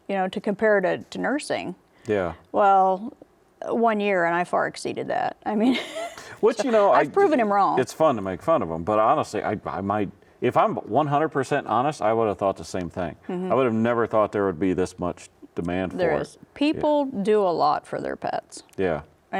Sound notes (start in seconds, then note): 5.8 laughs